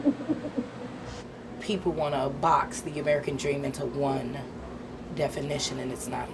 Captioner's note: giggling